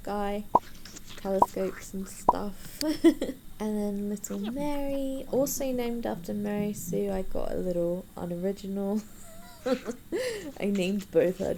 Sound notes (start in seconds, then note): 2.8 giggles; 10.2 wheezes